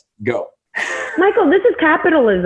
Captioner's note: laughs